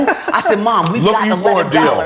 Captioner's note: laughs